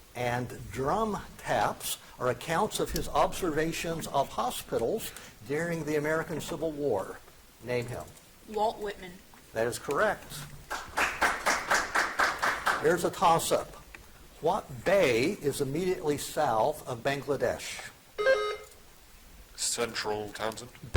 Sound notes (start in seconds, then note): 10.6 audience applauding; 18.2 buzzer chiming